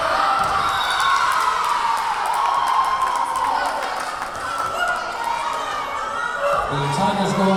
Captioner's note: cheering; whistle blowing